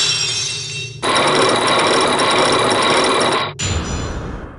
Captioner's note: lock shatters!; chains grinding!